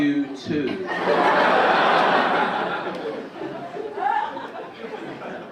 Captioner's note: audience laugh